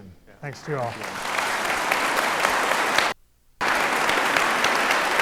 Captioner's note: audience applauds